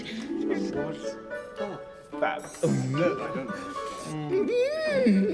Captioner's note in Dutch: mensen kwebbelen